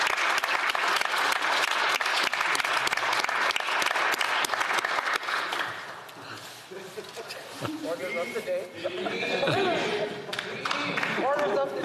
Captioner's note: some Applause